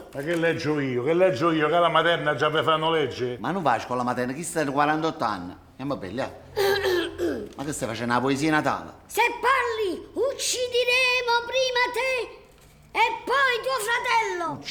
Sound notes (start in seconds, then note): 6.6 Felix clears his throat